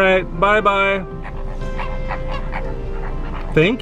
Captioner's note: birds honking